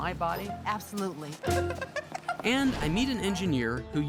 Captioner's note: laughing